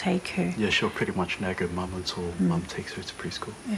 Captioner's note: speaks samoan